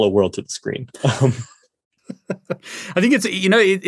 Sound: both laugh

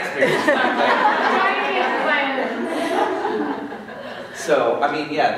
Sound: laughter, inaudible

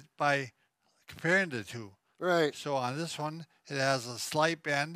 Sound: none

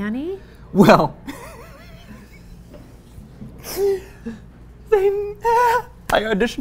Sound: laughs

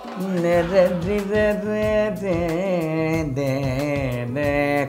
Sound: humming

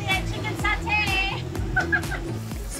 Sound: laughs

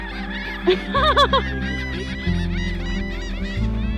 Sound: laughs

